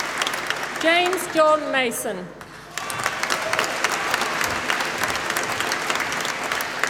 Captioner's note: applause